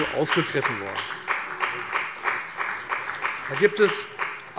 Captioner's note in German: Beifall bei dem BÜNDNIS 90/DIE GRÜNEN und der CDU